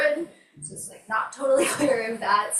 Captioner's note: laughs